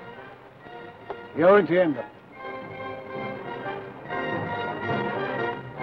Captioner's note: speaks foreign language